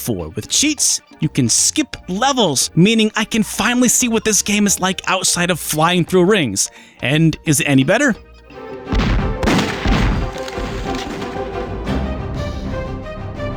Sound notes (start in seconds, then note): 8.9 gunshots